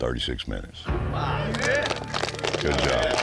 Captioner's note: cheering, applause; applause